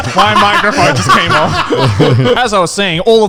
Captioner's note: all laughing